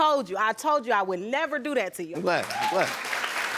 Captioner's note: audience applauding